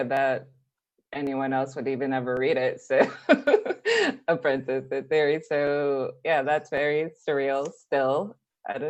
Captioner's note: laughs